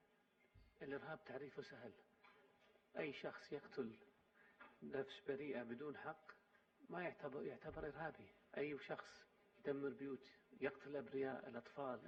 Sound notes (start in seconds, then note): 7.6 in Arabic